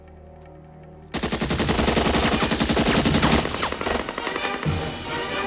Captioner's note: machine Gun Fire